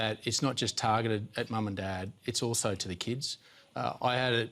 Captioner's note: none